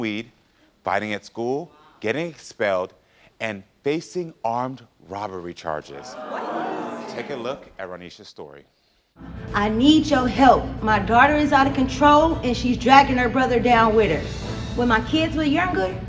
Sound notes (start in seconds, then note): 6.0 crowd exclaiming sadly